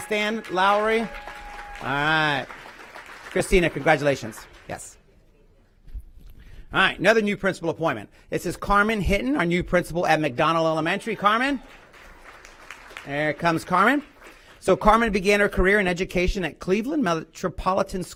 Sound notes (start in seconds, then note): 9.3 applause